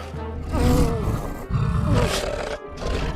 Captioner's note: moaning; growling